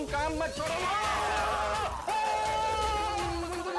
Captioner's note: screaming